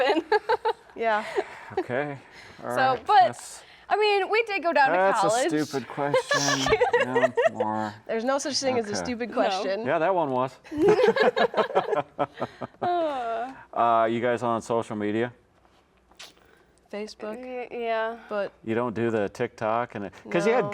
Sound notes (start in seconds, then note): 0.3 laughs; 5.3 laugh; 10.7 laugh